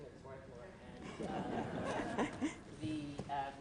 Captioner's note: laughter